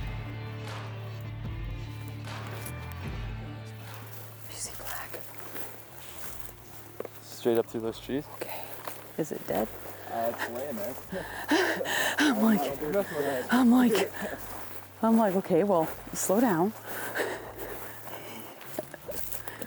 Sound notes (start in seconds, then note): 9.4 laughs